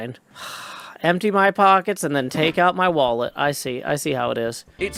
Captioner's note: sighs